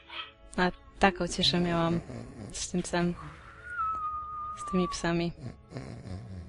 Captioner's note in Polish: Udawane chrapanie